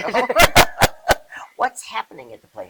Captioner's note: laughing